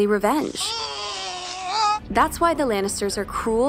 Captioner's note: groan